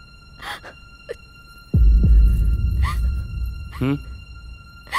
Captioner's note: Sobbing